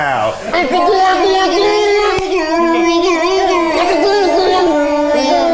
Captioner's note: everyone makes silly sounds